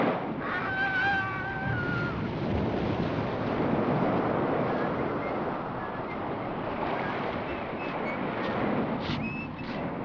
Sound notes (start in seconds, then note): 0.4 agonised scream; 5.0 whistling